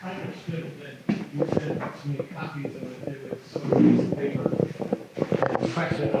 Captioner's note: faintly speaking